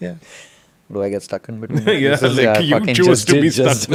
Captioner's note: laughs